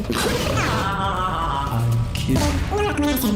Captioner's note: maniacal laughter